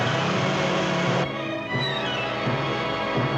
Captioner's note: car revving